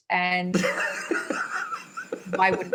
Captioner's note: laughing